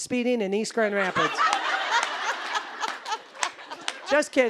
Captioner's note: audience laughing